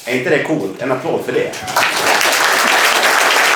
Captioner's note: applause